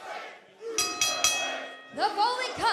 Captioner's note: crowd cheering; bell ringing